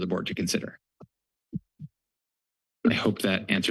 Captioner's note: pause